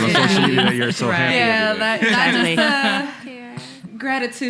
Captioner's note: laughing